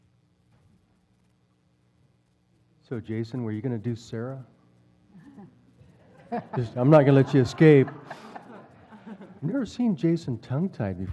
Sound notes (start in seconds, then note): 5.8 laugh